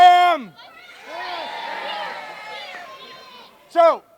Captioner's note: cheering